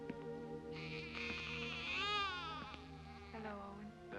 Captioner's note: soft music; baby cries